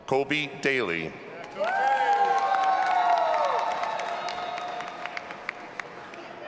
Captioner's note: audience applauding and cheering